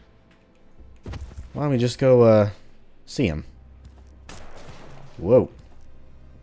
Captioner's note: Junker Musket shot